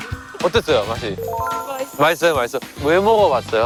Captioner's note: vivid feedback